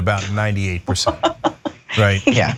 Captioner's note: laugh